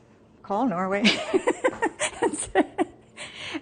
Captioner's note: laughs